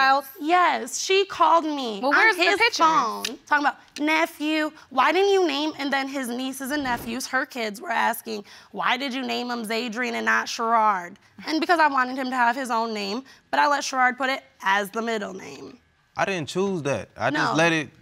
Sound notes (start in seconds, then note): none